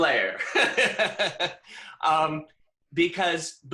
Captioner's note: laughs